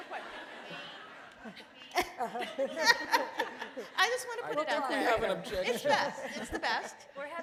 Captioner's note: laughter